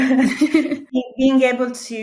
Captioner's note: both chuckling